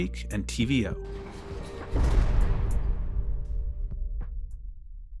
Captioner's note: door slamming